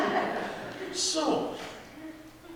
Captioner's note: audience laughing